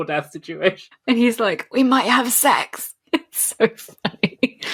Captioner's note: laughing